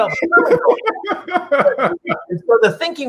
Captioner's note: laughs